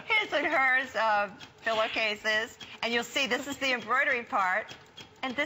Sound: laughter

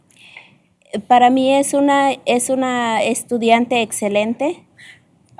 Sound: speaking spanish

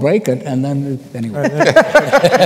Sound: laughter

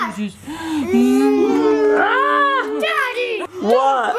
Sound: making kissy noises

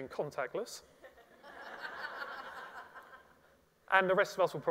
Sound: audience laughs

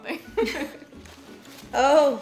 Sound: laughing

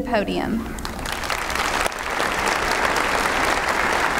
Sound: applause

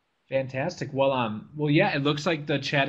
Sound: voiceover

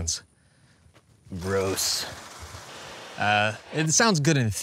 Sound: shards of data clink and crunch

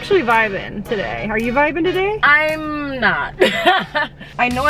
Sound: laughs

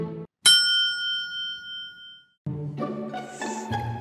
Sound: clock beeps

